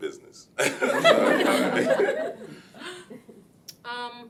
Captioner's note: laughing